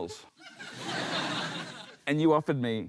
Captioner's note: laughter